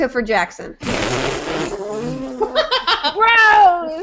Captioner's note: raspberry sound